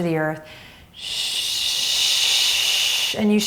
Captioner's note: shushing